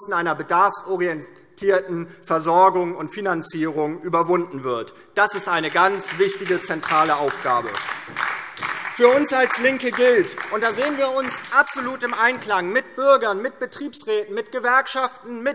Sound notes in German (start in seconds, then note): 7.6 Beifall DIE LINKE und SPD